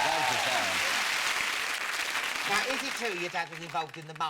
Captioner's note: audience applauding